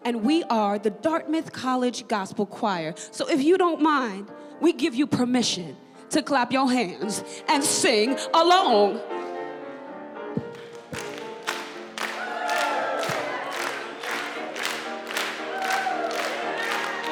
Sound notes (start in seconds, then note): 10.5 choir clapping; 10.6 audience cheering